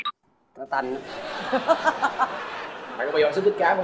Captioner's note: laughing